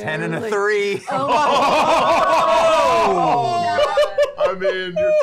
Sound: laughter

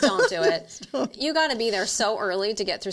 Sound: laughs

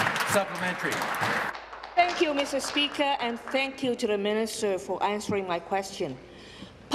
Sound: applause

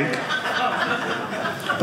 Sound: audience laughing

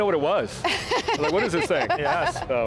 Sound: laughs

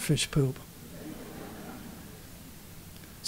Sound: laughter

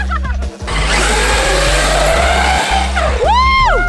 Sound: laughs; cars buzzing

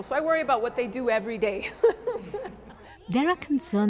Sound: laughter

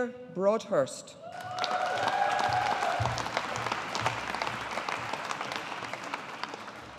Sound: audience applauding

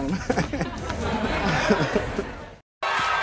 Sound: audience laughs

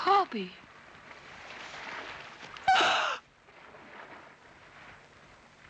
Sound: gasps

